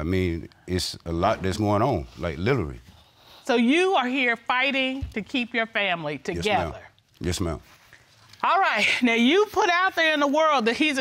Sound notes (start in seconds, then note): none